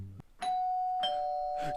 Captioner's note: ding; dong